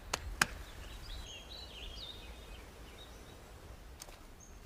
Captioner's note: birds chirping